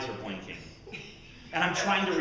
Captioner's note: laughter